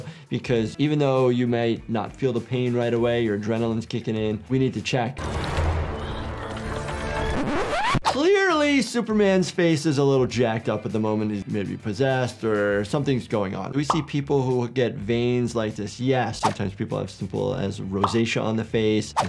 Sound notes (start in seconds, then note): 5.2 dramatic music; 7.3 record skipping